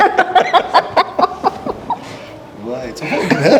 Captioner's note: laughs